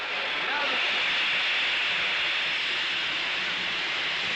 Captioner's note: steam hissing